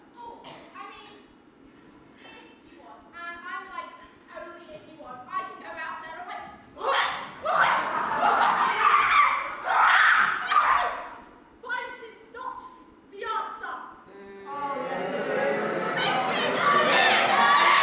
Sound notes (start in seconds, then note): 9.1 fight noises; 14.5 boooooo!